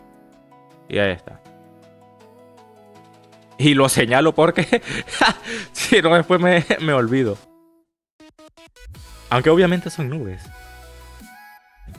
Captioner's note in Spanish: risas